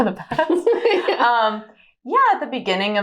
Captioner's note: both giggle